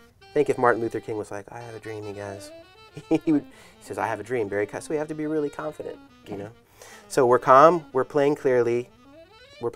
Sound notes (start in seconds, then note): 3.0 speaking quietly; 4.7 speaking boldly